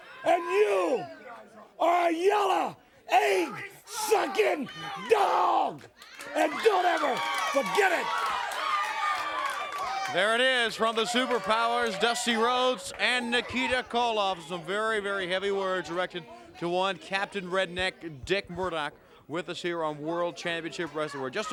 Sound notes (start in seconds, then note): 8.2 crowd cheering